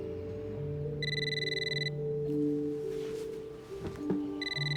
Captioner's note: phone rings